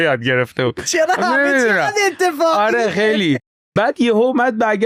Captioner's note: laughs